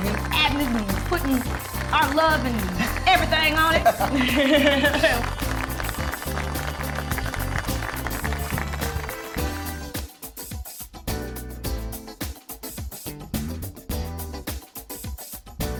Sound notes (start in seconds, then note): 4.3 audience applauding; 4.3 uplifting music